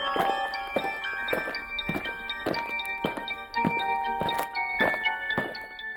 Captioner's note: eerie music; aliens marching